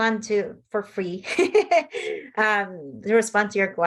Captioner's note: laughs